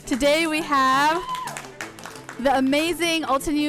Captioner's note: applauding